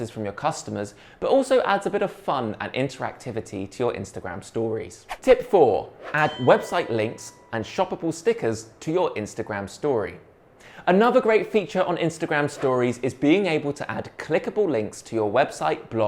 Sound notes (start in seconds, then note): 6.0 bell rings